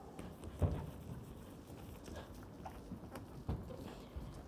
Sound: footsteps thumping

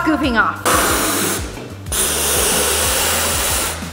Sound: air whooshing

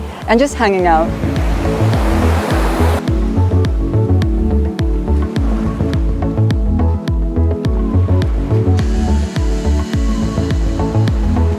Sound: sound of waves

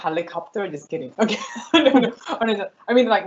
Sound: laughs

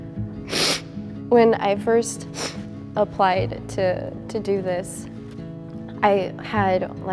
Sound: sniffles

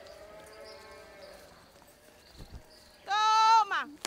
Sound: cows mooing

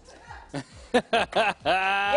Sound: laughter

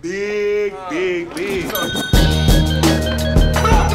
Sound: bell rings

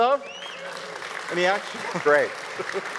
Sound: audience cheers and applauds

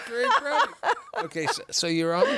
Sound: laughter

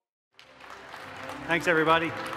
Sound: audience applauding

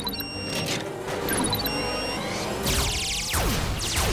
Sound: robots beeping

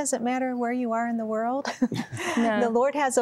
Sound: giggling

